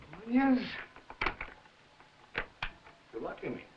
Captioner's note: door locking